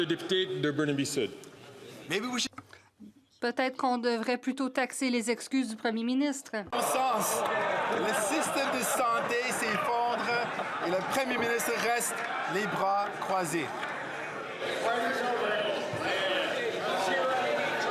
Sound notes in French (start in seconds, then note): 7.0 voix de l'interprète